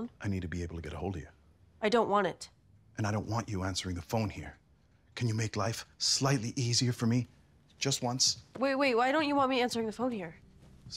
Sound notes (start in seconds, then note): none